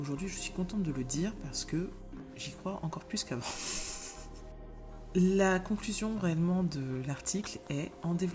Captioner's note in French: rires